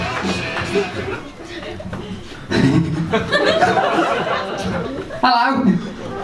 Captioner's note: funny giggle, audience laughs